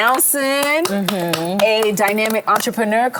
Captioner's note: hosts clap